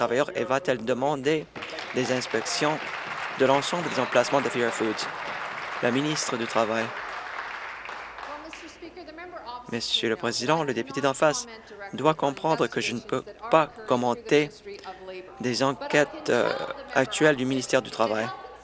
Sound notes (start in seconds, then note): 5.9 applause